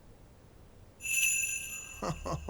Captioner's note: bells jingling